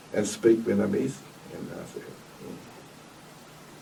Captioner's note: coughs